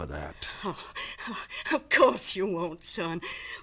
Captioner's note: scoffs